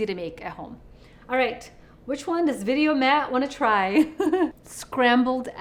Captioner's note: laughs